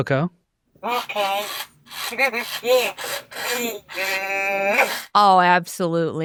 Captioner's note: babbles